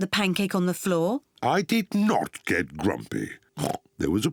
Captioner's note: oinks